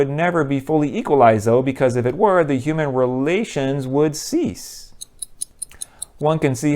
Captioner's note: ticking